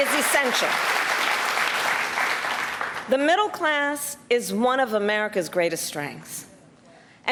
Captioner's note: cheers and applause